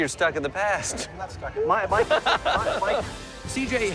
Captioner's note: laughs